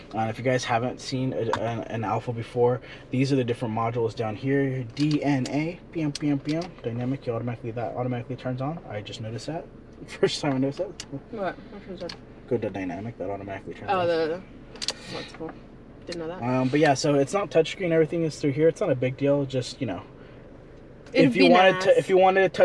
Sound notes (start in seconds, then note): 5.2 vocalizes